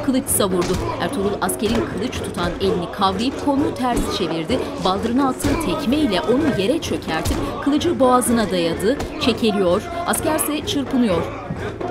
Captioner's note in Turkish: Dua sesleri